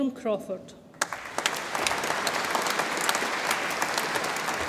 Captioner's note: audience applauds